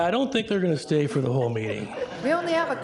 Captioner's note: everybody laughing